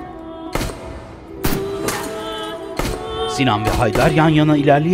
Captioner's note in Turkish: Silah sesleri